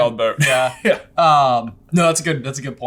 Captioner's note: chuckles